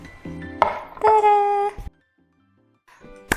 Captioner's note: plate thuds; claps hand